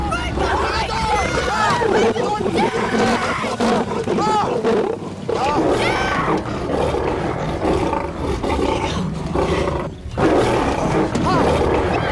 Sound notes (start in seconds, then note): 0.4 Roaring; 6.0 All Screaming, Shouting; 7.7 Groaning; 10.2 Roaring Continues